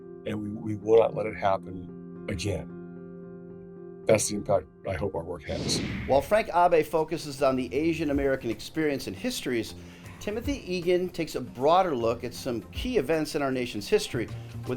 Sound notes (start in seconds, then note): 5.4 screen whooshing